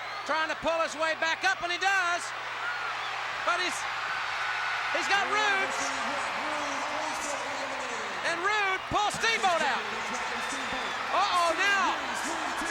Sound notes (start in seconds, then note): 4.2 crowd cheers